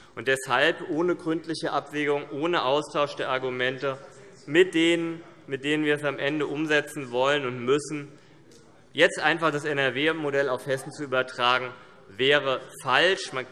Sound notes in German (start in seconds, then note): none